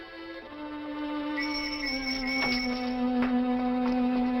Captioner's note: police whistle blowing